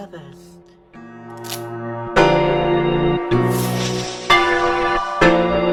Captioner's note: loading, firing